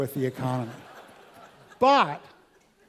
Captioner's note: laugh